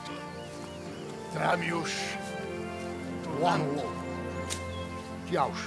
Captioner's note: foreign spoken audio